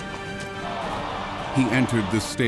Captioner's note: commotion